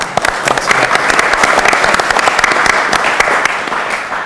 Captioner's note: audience applauds